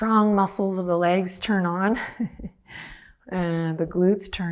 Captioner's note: laughs